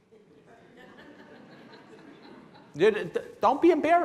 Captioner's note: laughing